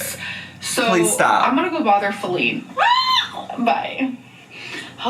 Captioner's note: squeals